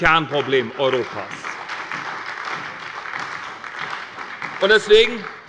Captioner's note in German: Beifall bei der SPD